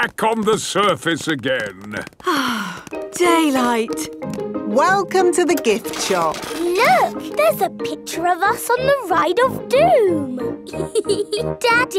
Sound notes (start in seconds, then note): 2.2 sighs